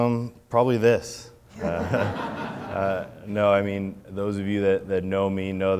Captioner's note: laughs